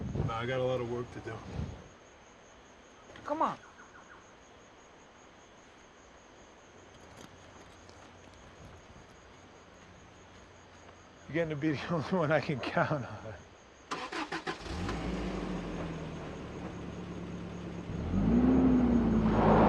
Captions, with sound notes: - Nah, I got a lot of work to do. - Come on. - You're gettin' to be the only one I can count on. (motor rumbles)